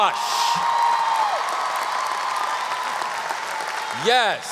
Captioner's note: audience applause